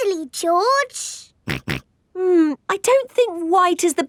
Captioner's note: snorts